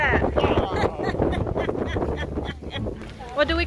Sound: duck laugh

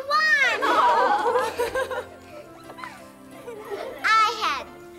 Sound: everyone laughs

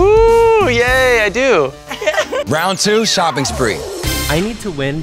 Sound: laugh

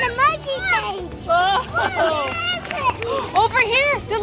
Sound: mom laughing

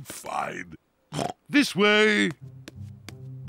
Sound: oinks

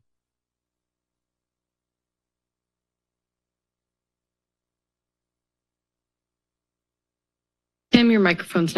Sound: silence

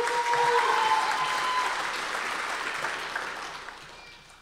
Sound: audience applause

